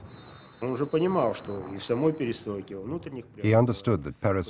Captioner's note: speaking Russian